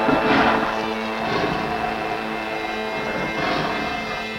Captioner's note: growling